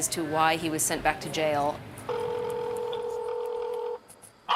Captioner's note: telephone ringing